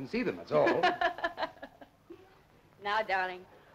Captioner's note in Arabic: تضحك